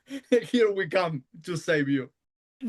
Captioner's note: laughs